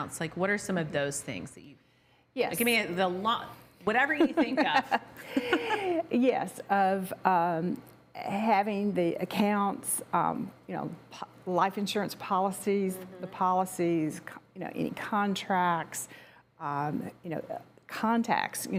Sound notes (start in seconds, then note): 4.2 laugh